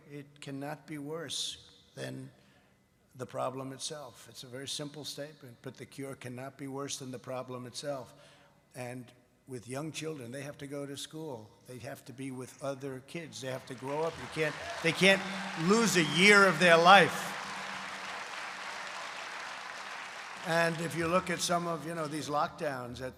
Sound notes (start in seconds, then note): 17.6 applause